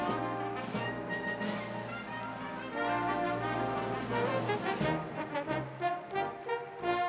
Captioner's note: applause